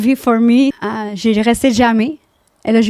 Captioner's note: in french; french